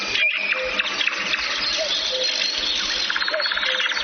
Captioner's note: animal sounds